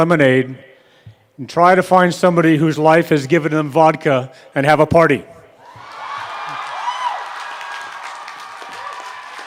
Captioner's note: applause